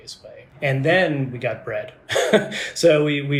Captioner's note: laughs